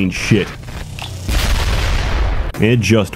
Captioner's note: massive explosion